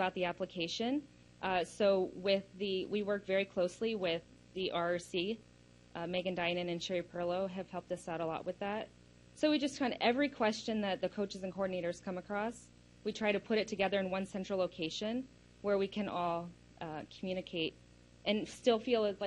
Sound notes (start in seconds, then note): none